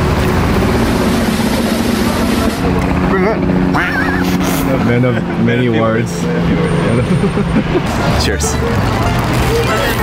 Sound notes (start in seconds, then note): 0.0 drum rolling; 3.8 duck quacking